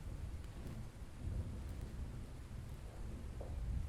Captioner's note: thunder rolling